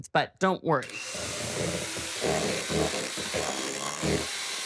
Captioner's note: mixer working